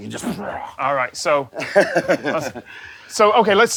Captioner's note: chuckles